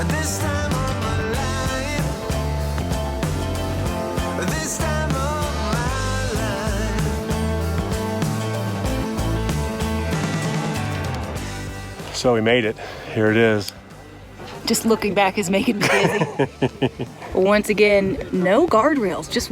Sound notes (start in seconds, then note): 15.8 laughing